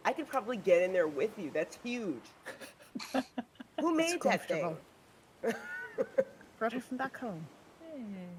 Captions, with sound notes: - I could probably get in there with you, that's huge. (person laughing) Who made that thing? - It's comfortable. (people laughing) Brought it from back home.